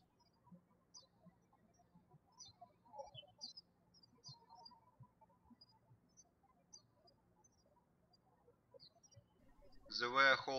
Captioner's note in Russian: птички щебечут